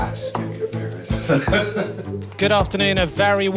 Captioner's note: laughs